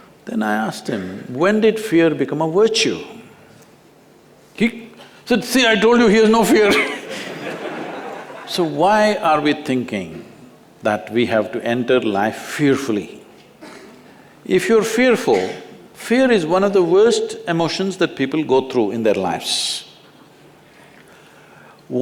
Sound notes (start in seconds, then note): 6.6 laughter